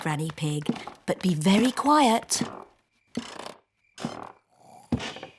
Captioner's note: stairs creak softly; both snore